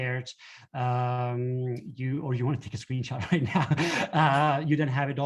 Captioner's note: laughter